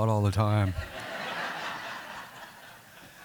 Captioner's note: laughter